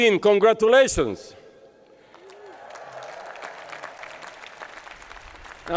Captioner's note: applause